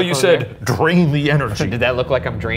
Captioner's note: chuckling